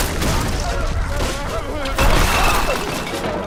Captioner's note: screaming, banging; crashing, yelling continues